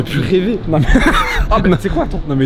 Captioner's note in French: rire